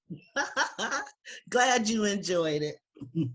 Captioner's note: laughs